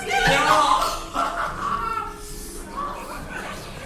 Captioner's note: laughs excitedly